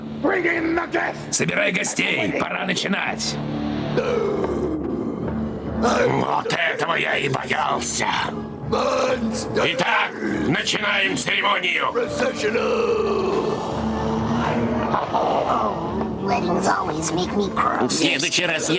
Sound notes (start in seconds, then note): 3.9 growling